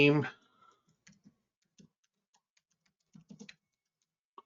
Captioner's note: mouse clicking